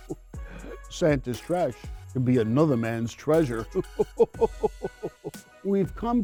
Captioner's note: chuckles; chuckles